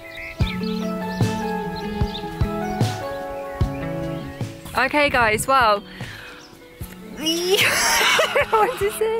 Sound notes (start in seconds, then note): 7.4 laughing